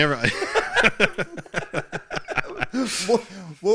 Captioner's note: laughing